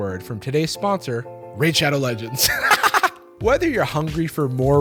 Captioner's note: laughs